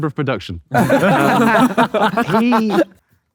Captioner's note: group laughing